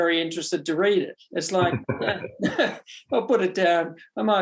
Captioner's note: both chuckle